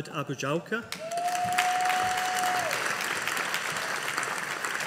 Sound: audience applauding

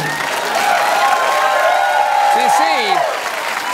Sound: cheers

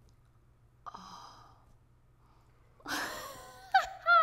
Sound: moans; laughs

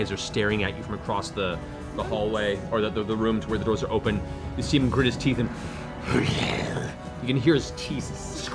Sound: growls

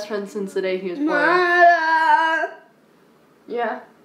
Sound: vocalizes

